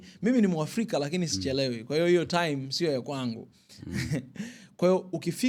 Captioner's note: laughter